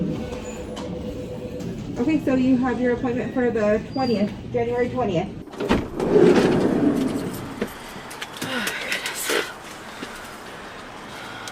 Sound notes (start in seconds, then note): 5.5 door opening; 8.3 panting